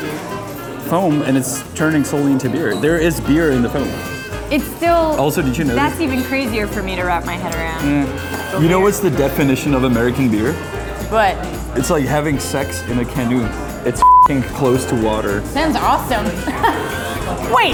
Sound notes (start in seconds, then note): 14.0 beep; 16.2 laughing